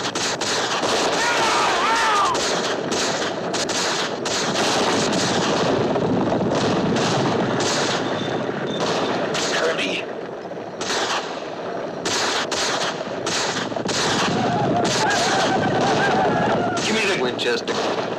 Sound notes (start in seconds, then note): 14.2 whooping